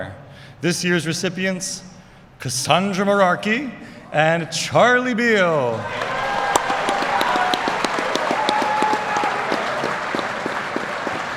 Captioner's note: applause